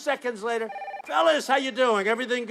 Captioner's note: phone ringing